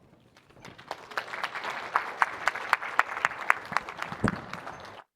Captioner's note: audience applauding